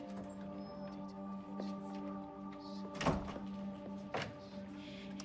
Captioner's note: indistinct chatter